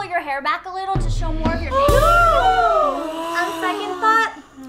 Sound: group gasps

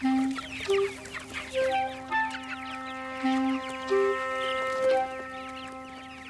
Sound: birds clucking

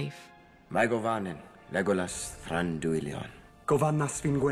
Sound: in elvish

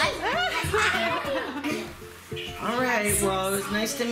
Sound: laughs

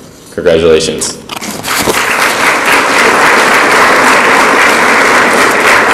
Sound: audience applauds

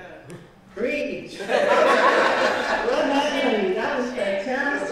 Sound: laughter

